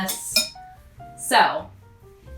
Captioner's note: spoon clinks